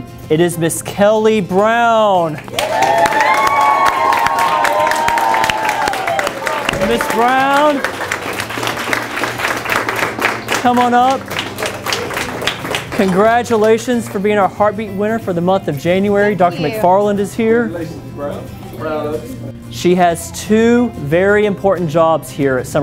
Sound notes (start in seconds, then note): 2.5 people cheering; 8.3 crowd clapping